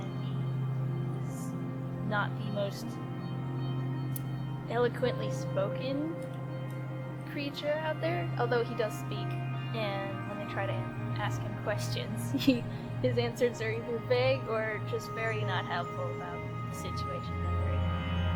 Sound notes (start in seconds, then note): 12.3 giggles